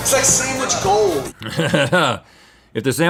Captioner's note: chuckles